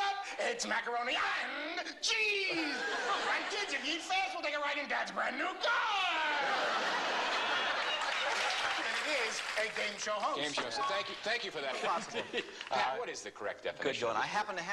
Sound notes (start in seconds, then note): 6.3 laughter